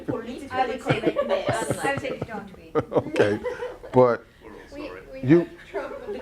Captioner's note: laughter